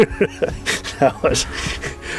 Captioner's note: laughs